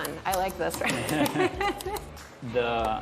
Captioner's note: laughing